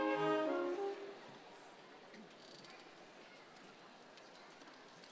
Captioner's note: crowd chattering